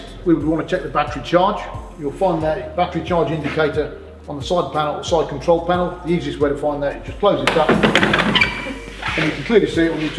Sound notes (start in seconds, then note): 7.5 closes bonnet